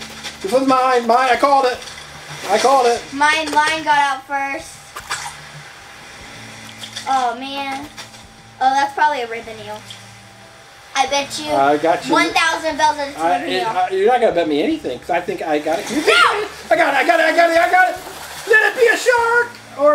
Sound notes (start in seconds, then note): 4.7 fishing lure splashing in water